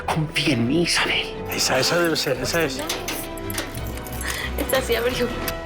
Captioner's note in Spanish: Ruido de las llaves